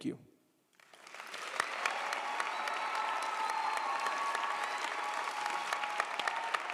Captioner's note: audience applauds; audience cheers